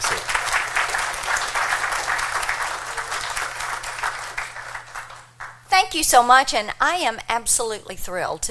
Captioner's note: applause